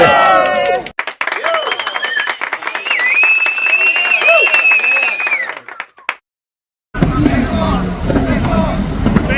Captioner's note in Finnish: Aplodeja